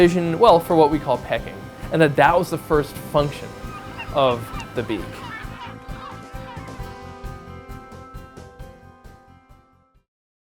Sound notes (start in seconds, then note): 5.4 bird cries/music